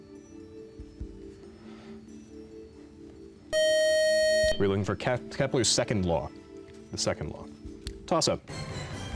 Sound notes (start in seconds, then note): 3.5 time-out buzzer